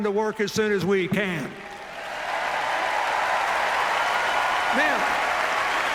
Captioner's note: cheers, applause